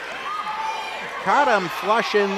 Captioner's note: audience yells